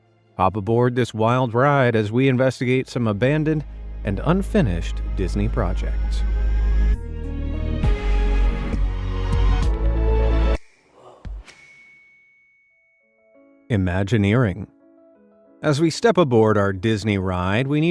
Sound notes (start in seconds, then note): 6.8 gentle suspenseful music; 11.4 bell dings